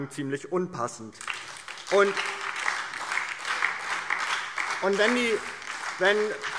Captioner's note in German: Beifall DIE LINKE und SPD